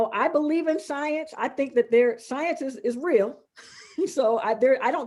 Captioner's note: laughing